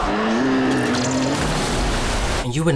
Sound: splashing

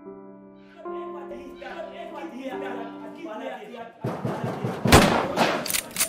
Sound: faded dream sounds; knock on the door

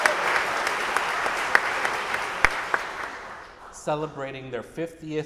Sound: audience applauding

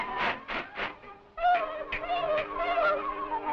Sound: yelling

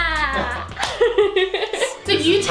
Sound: laughing

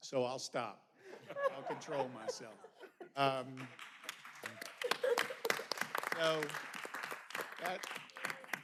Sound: laughter

